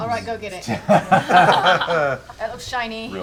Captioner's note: laughter